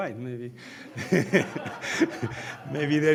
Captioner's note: all laughing